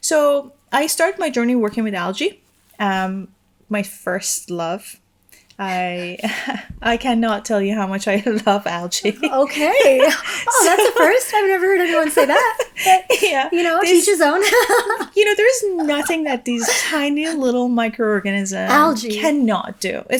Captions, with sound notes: So I start my journey working with algae. My first love. (chuckles) I cannot tell you how much I love algae. - Okay, that's a first. I've never heard anyone say that, but yeah. You know, yo each his own. (chuckles) - You know, there is nothing that these tiny little microorganisms cannot do.